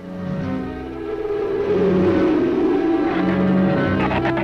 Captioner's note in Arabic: موسيقى أوركسترالية مظلمة; عواء الريح